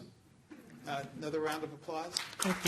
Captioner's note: applause